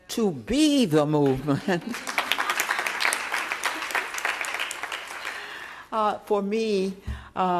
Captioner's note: applause